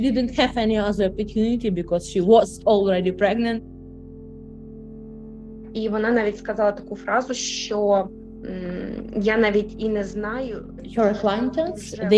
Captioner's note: speaking Ukrainian